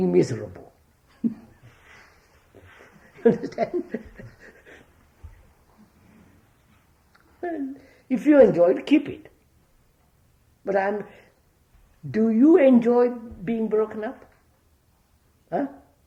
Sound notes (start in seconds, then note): 2.5 laughs